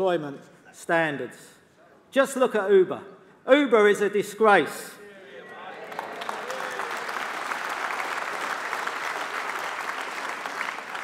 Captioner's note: applause